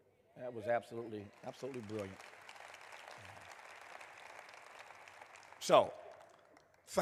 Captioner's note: applause